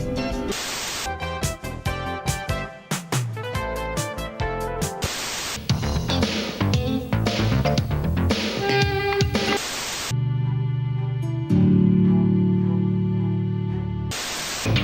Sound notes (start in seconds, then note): 0.1 TV static; 5.0 TV static; 5.6 upbeat r&b; 8.3 TV static; 14.1 TV static